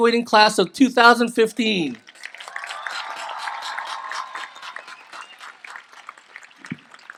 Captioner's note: applause